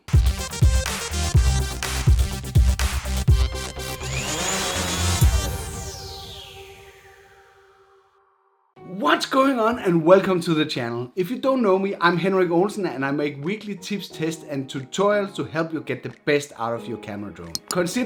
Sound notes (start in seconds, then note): 0.3 intro music; 3.5 motor whirring